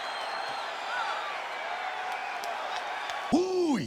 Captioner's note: applause